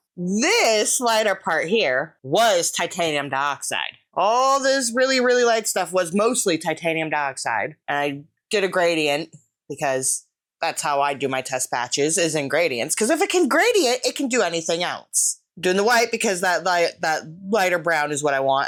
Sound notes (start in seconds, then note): none